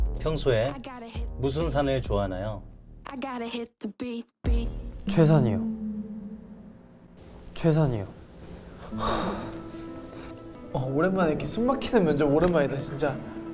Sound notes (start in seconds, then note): 8.8 everyone sighs